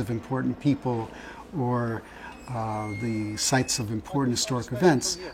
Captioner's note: gate squeaks